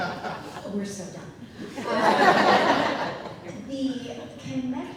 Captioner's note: audience laughing